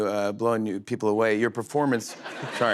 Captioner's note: laughter